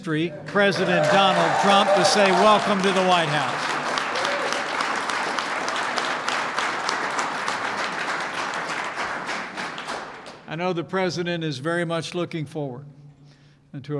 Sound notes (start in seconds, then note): 3.8 applause